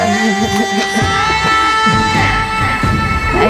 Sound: laughing

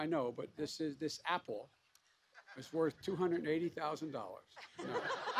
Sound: laughter

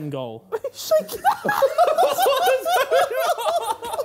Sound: laughing loudly

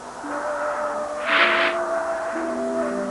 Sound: raking noise

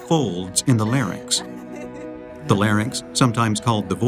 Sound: women laughing

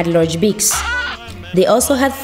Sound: squeak

